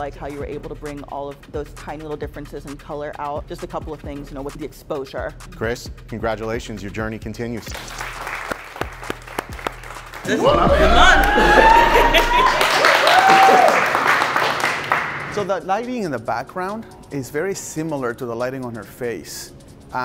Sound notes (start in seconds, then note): 7.6 clapping; 10.2 cheering